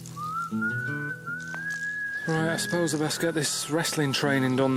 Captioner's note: whistling